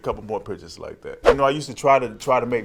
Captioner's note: air whooshing